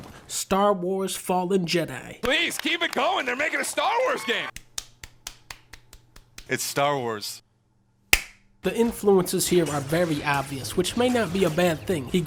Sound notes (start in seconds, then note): 4.5 only one guy clapping; 8.1 one single clap